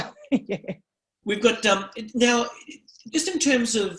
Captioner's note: laughs